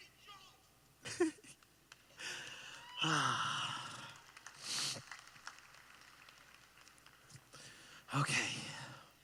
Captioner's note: clapping